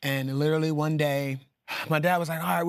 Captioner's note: sighing